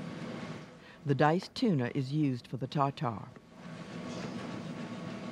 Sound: voiceover

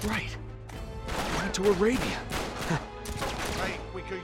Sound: laugh

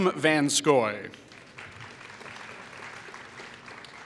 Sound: applause

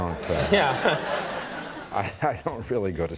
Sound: laughter

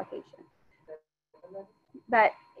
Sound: student speaking faintly

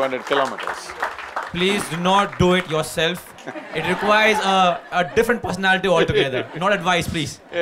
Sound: laughter

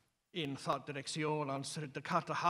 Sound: middle english speech

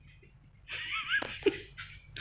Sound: various giggles

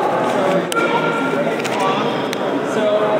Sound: children's voices echo

